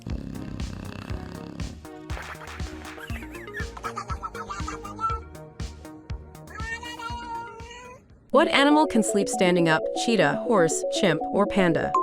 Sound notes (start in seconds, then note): 0.0 bulldog snoring; 0.0 fun music; 3.6 cat babbling; 3.6 fun music; 11.7 intriguing music